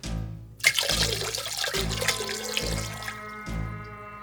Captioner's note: splashing